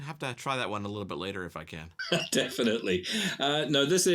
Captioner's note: laughs